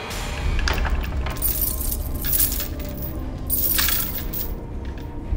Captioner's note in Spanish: ruido de cadenas